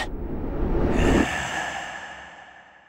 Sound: reptilian growl

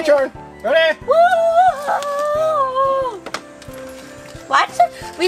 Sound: assistant cheers

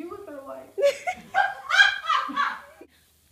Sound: mom laughing in the background

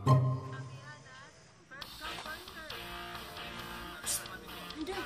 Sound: woman talking on radio; rock music playing on radio

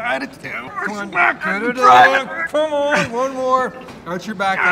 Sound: grunting

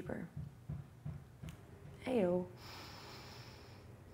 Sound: thumping in the distance; inhales and exhales

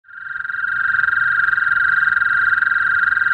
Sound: toad croaks

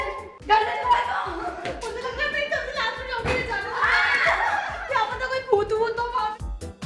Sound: chattering

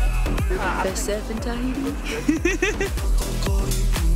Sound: laughs

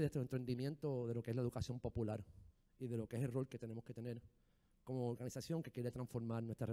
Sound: speaking in foreign language

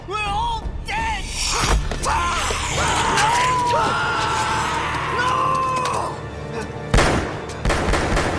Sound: screams

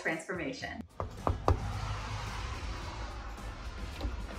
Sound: knocking

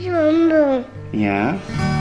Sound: babbles

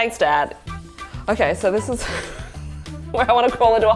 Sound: laughs

